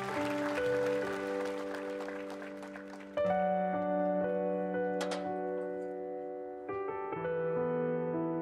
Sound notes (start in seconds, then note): 1.9 speaking Indigenous LANGUAGE; 3.3 applause